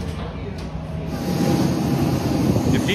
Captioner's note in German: Dröhnen der Flugzeuge